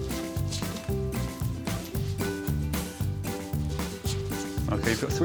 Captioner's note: upbeat music; dog sniffing loudly